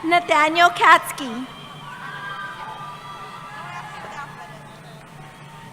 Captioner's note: cheering